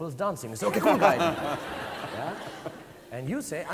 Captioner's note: audience laughing